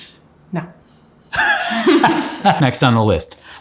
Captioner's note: laughing